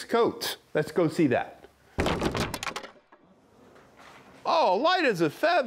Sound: wood clatters

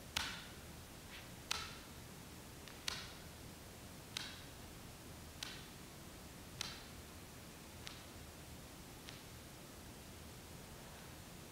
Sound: dancer rhythmically taps foot on floor

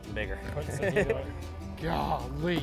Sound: laughing

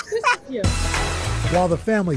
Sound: laughter

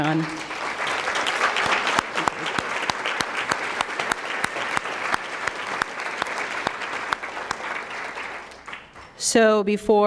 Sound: applause

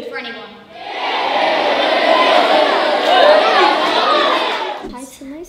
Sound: audience cheering and shouting "Hear, hear"

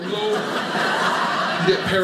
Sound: audience laughing

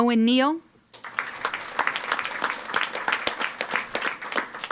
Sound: audience applauding

